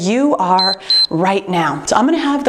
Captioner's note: timer beeps